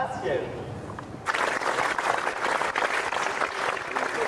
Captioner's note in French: applaudissements